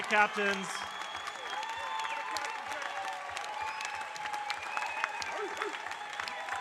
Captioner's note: audience cheering and applauding